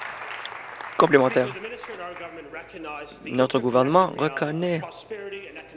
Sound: applause

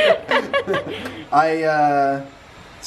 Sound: laughing

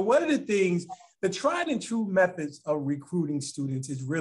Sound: laughs

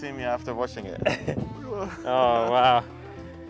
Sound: laughs

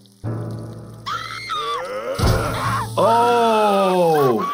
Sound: character screams

